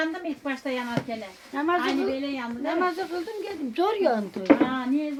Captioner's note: tandoor fire